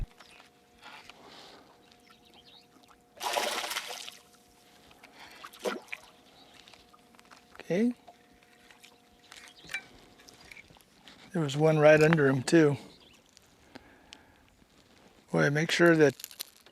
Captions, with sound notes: [splash] ok there was one right under him too. boy make sure that...